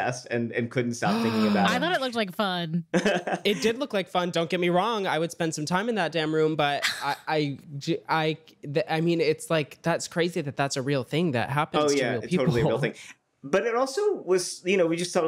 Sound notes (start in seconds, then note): 1.1 gasps; 2.9 laughs; 6.9 stammers